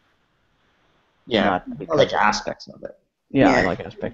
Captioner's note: agreeing murmur